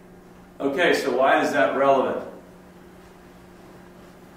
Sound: voiceover

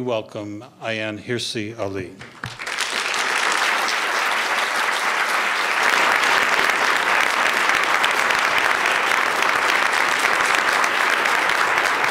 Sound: applause

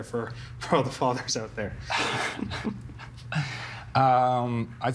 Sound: laughing

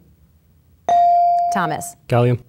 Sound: ding

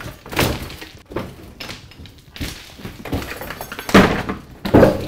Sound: objects clanging and falling

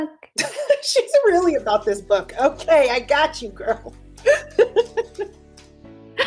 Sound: laughs

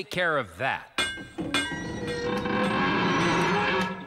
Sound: clank! Clank!; creaking Noise

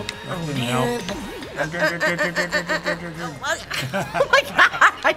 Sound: anxious muttering; laughing

